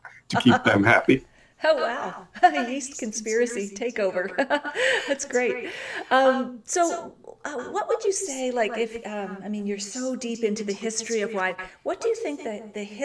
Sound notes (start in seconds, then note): 3.9 laughs; 4.1 chuckles